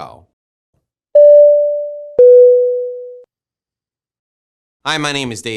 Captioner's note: tones ringing